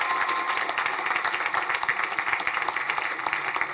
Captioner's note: crowd cheering